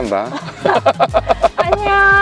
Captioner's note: laughter